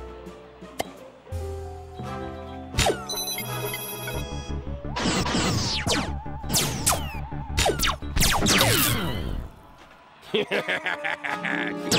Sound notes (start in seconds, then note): 4.9 electronic blasting; 10.2 laughs maniacally